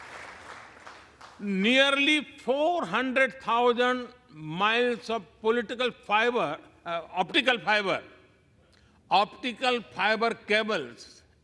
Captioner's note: applause